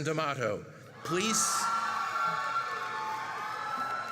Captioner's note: cheering